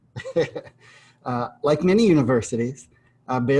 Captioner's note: laughter